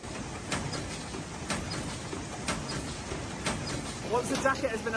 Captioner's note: machine whirs and clicks